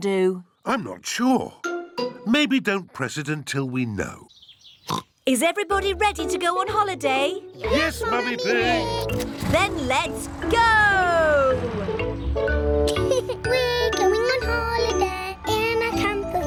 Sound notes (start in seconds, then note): 4.8 oinks; 12.8 laughs